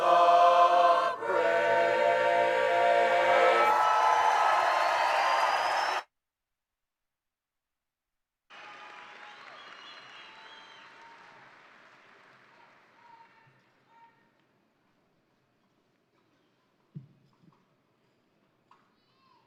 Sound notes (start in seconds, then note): 3.2 crowd applauding; 4.2 crowd cheering